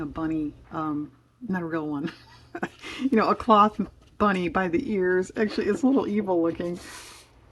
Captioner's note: laughs